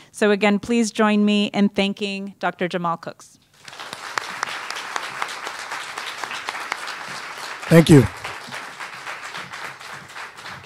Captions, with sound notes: So again, please join me in thanking Dr. Jamal Cooks. [APPLAUSE] Thank you.